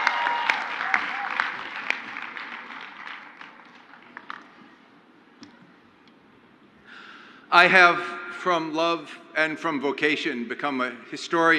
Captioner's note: crowd applauds